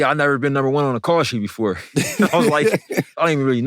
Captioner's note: laughter